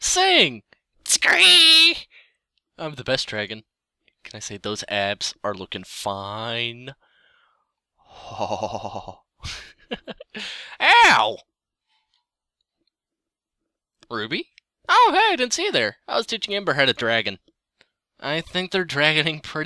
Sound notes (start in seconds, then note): 1.1 quality Dragon Skreeing